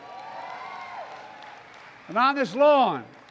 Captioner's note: applause